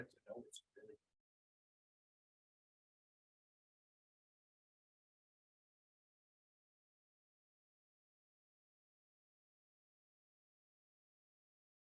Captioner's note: audio drop